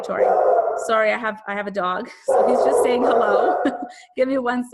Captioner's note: laughs